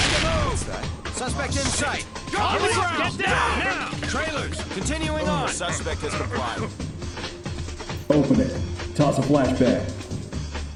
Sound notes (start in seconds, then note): 1.2 Agents talking and shouting